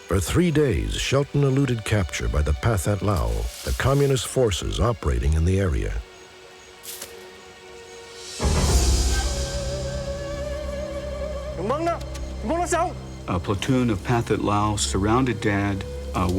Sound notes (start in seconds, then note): 11.3 speaking laotian